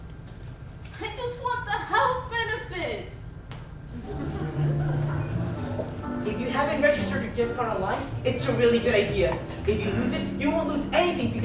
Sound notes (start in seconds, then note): 3.9 snap; 4.2 soft music